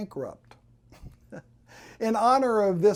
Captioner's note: chuckles